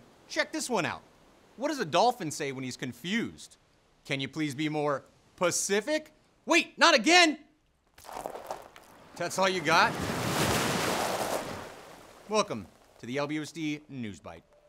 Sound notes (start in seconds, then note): 8.0 water splashing; 8.8 wave crashing